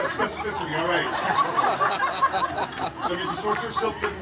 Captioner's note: guests laughing